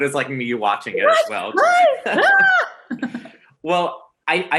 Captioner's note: surprised noises